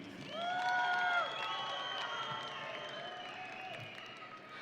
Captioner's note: audience cheering